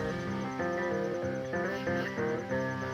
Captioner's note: crickets chirping